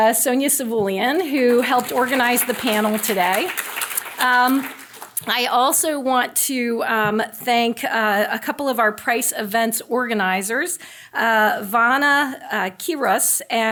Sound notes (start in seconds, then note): 4.3 audience applauding